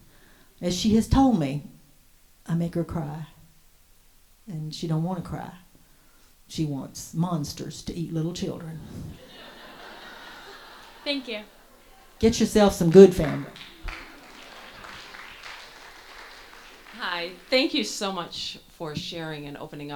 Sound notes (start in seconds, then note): 9.1 audience laughs heartily; 13.1 audience applauds